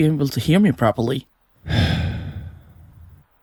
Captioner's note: sighs